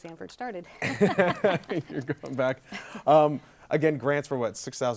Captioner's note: laughing